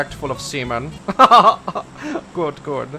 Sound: posh laugh

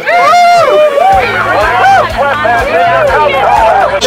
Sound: cheering

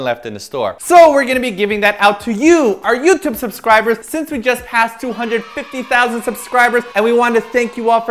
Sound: kids cheering: Yay!!!

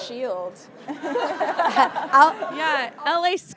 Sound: audience laughing

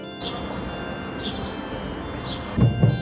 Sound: outdoor train station ambience; internal train carriage sounds

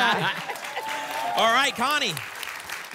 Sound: applause and cheering

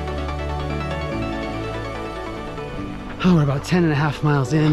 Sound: footsteps crunching

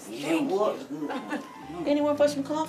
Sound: chuckling

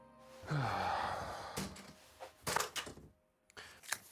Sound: Matt sighs

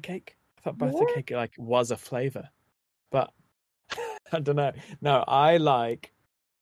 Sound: laughs

